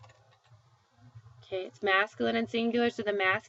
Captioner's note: speaking spanish